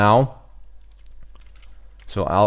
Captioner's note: typing